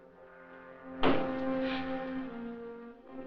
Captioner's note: door bangs